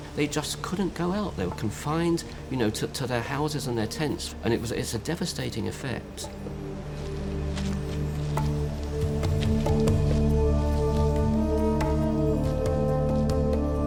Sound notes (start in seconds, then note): 6.7 chimes; 8.9 soft drumming